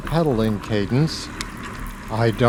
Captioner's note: click